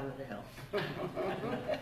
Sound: laughter

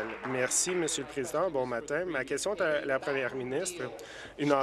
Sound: applause

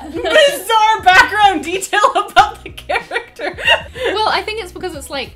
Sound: laughs

